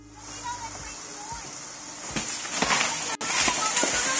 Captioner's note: muffled shouting; tree cracks and crashes